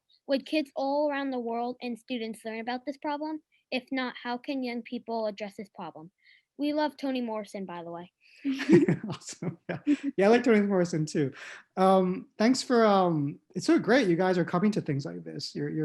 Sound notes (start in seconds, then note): 8.4 laughter